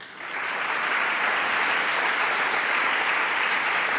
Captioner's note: applause